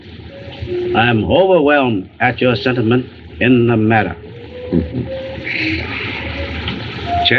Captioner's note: chuckles